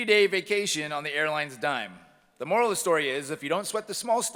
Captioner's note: none